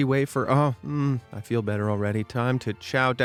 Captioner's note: moans